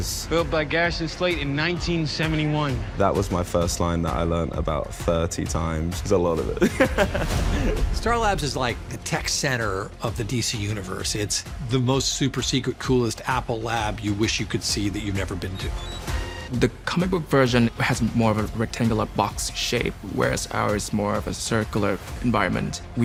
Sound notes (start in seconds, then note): 6.5 chuckles